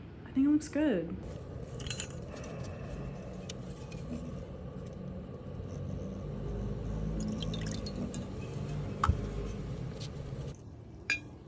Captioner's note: darth vader gas mask sounds